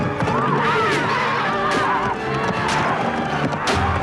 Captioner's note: spear stabbing